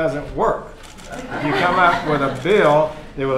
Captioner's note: laughter